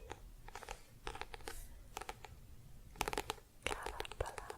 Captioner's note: tapping on book